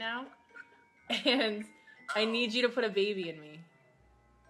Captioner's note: laughing